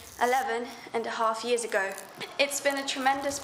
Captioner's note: shouting